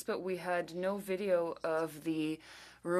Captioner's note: speaking french